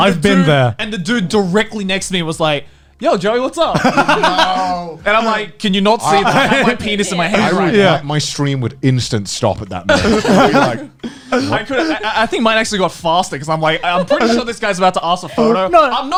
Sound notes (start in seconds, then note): 3.8 laughing